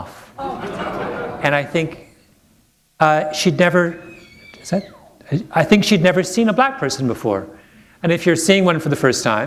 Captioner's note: laughter